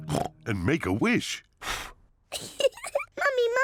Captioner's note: blows; giggles